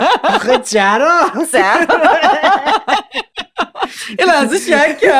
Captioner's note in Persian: خنده